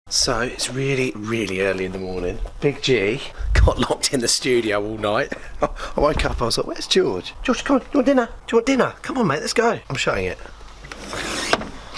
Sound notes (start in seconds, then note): 5.1 laughs; 11.7 bang